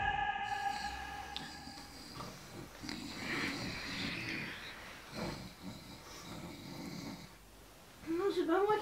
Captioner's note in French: Ronflements